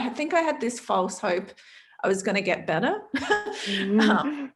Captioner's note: laughs